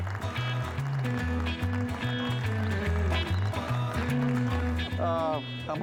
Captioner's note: colleagues applauding; upbeat music